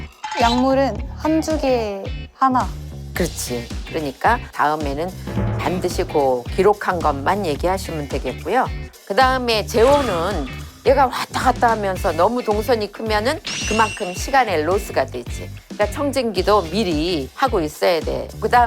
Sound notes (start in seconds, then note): 13.5 cold feedback